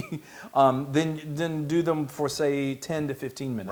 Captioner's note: laugh